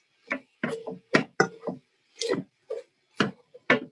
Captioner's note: pan clanking